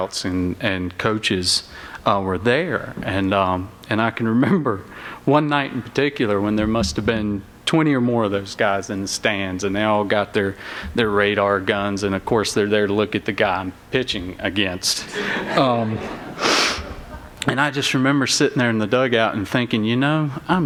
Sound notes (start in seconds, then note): 15.0 laughter